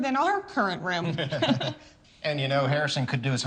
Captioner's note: both laugh